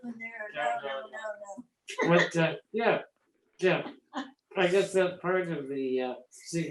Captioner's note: laughs